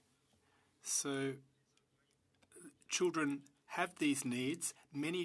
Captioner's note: speaking French